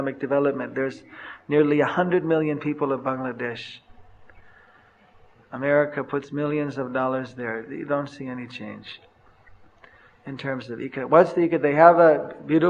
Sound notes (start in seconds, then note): none